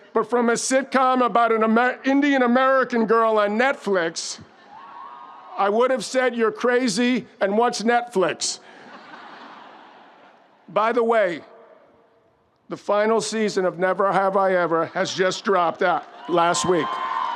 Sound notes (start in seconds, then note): 8.6 audience laughs